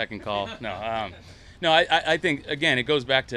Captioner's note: interviewers laughing